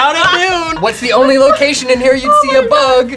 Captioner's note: laughing